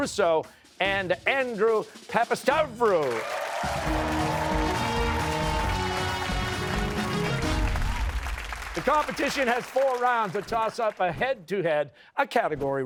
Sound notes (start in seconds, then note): 2.9 cheers and applause